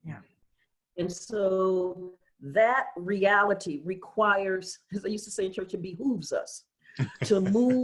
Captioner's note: laughter